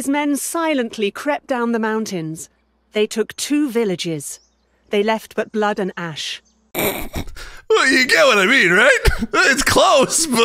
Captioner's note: laughs